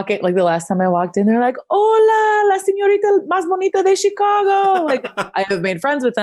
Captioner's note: speaks foreign language